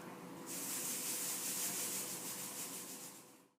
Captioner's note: rustling sound